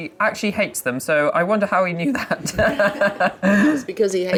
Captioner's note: laughing